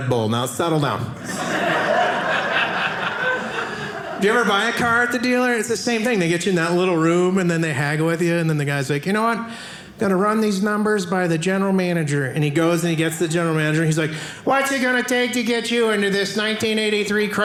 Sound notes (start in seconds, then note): 1.2 audience laughing